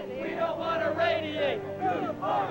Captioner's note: chants